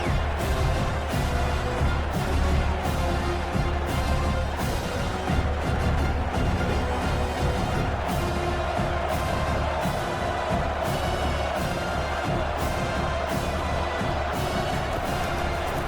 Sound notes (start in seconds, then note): 0.0 crowd Noises